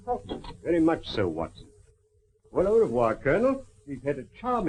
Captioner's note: none